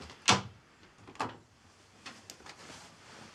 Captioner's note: door thuds